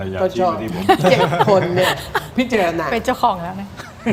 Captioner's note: laughter